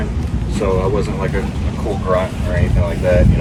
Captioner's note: speaking faintly